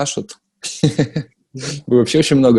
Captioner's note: laughs